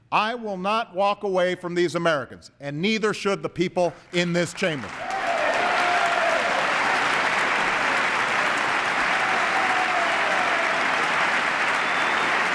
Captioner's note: applause